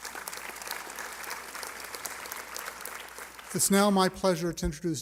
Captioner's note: applause